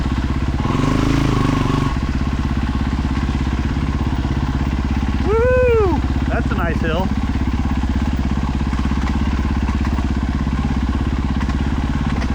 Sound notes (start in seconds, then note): 0.4 engine revving